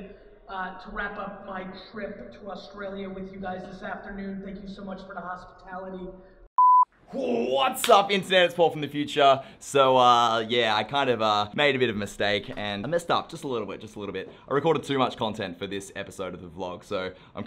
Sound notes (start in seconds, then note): 6.5 beep